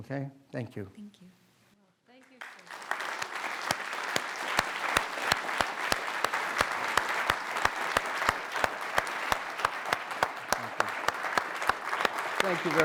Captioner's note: applause